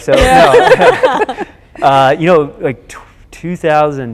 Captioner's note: laughing